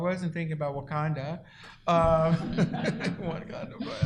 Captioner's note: laughter